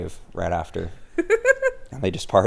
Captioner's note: laughing